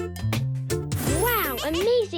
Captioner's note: laughing